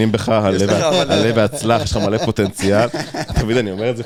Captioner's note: laughs